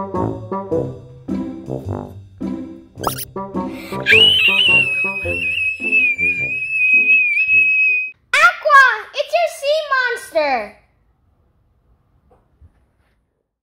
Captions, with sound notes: - (shrieks) Aqua! It's your sea monster!